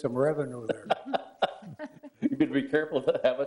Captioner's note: laughs